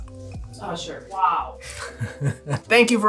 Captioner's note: laughter